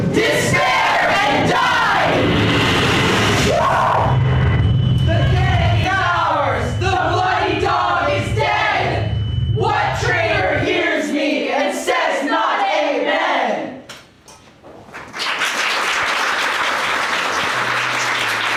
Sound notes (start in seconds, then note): 1.1 closest explosion; 3.4 scream; 14.8 applause